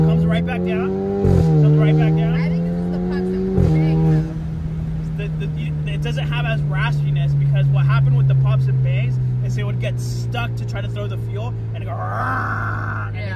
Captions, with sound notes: Comes right back down. (engine revving) Right back down. I think this is the pops and bang though. It doesn't have as raspiness, because what happened with the pops and bangs is it would get stuck to try to throw the fuel and go (imitates engine revving)